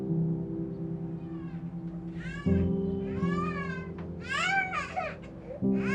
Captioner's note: baby starts to cry